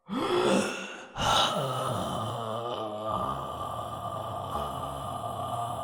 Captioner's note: dough sighing